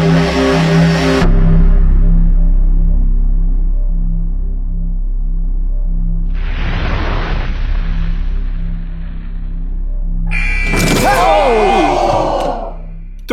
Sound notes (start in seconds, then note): 10.3 buzzer; 10.6 dunk sound